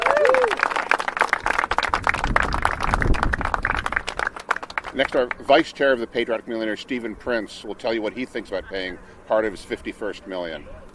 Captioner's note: applause